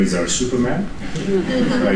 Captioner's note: laughter